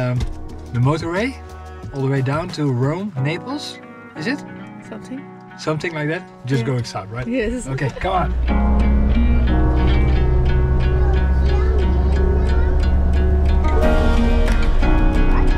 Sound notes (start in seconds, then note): 7.7 giggles; 10.3 energetic electronic music